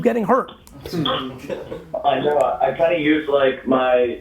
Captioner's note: group laughs